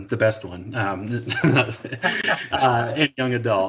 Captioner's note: laughing